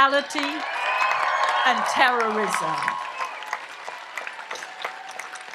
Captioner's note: audience applauds and cheers